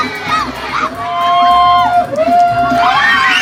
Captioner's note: cheers and Laughing from Students